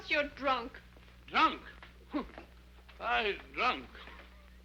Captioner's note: scoffs